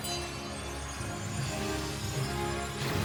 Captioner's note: shimmer!; music climbs